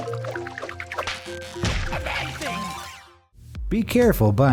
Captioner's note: water sloshing; upbeat music; rubber squeaks